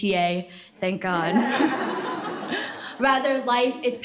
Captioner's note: laughter